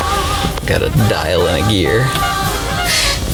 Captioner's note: click